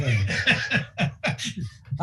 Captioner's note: laughing